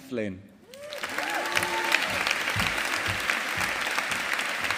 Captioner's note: audience applauding